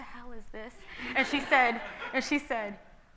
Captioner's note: audience laughing